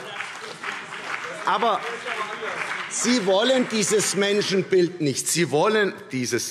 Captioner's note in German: Beifall CDU und BÜNDNIS 90/DIE GRÜNEN